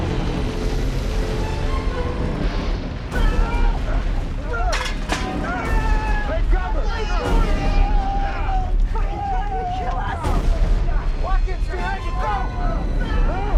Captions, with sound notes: (tense music) (yelling) Take cover! (dramatic music) - Fuckin' tryin' to kill us! - Watkins, behind you, go!